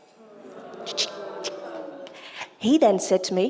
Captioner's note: imitates drum noise